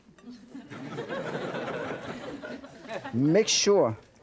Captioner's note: audience laughing